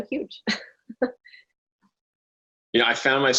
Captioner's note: chuckling